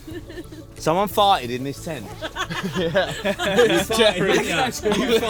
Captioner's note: laughter